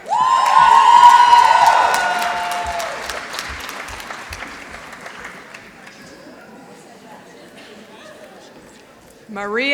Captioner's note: applause